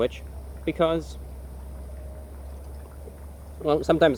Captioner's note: dignified sipping